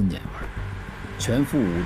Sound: Traffic

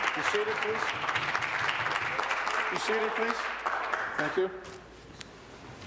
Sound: applause

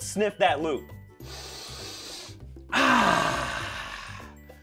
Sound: sniffing

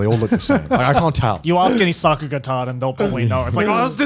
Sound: murmurs

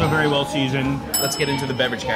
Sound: bell dings

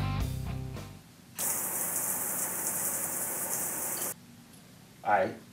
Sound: water spraying sound

